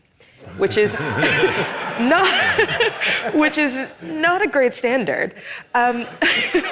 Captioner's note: audience laughing; laughs